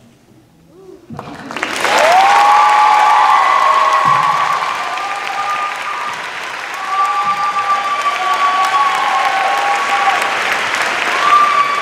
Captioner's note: cheers and applause